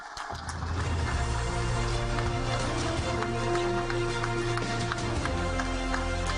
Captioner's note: audience applaud; dramatic music